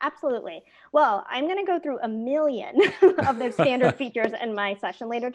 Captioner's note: laugh